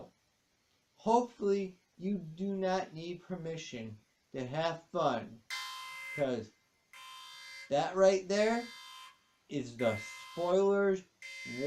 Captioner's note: alarm sounds